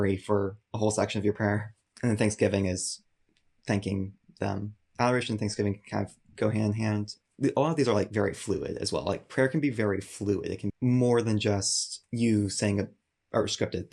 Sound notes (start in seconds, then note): 7.4 murmurs